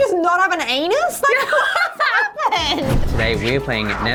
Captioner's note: laughing